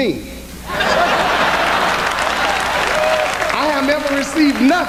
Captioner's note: applause